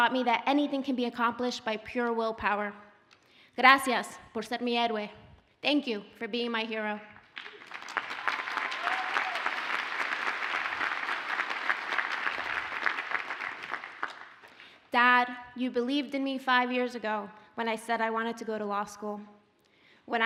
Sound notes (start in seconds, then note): 3.6 speaking Spanish; 7.3 audience applauds